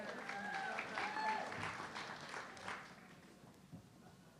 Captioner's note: audience clapping